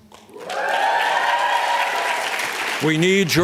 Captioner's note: applause